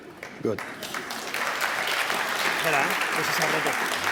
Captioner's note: applause